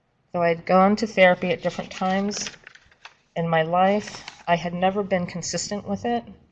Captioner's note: paper shuffling